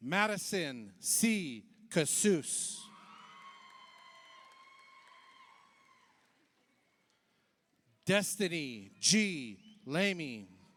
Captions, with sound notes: Madison C. Kasuse, (audience applauds) (audience cheers) Destiny G. Lamy,